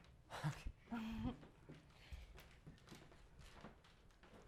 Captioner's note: both chuckles